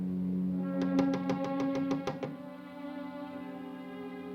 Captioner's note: knocking